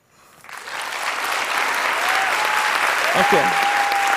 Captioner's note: applause